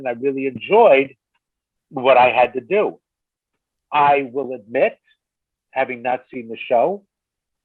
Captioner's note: none